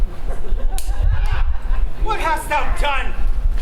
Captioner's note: audience laughs